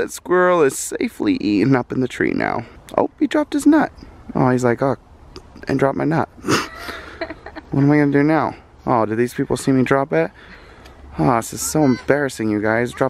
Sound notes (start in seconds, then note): 6.4 giggles